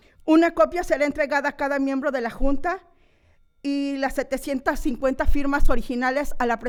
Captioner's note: continues speaking in foreign language